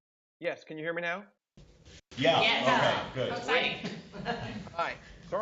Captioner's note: laughter